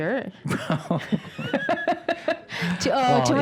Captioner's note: laughing